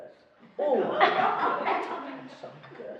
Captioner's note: laughing